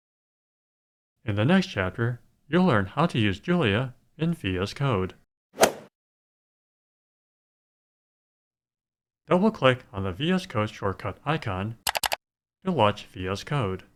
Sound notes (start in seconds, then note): 5.5 swoosh